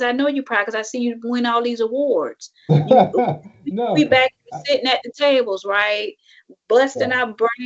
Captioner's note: laughs